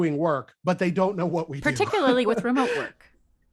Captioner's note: laughter